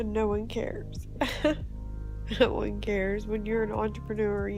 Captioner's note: laugh